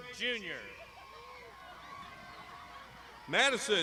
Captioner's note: crowd shouting